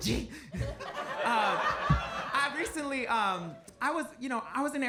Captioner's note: audience laughs